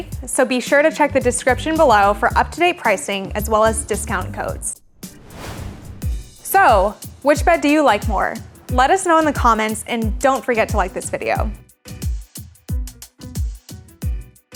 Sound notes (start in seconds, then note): 5.4 whooshing; 11.8 upbeat music